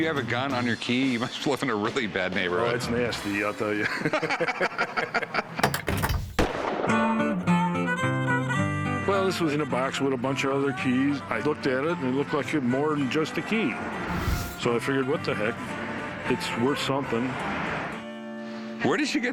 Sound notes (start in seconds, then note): 3.7 laughter; 5.8 folk music playing; 6.3 gunshot